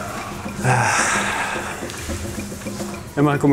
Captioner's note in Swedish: sighs